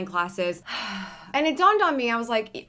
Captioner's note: sighs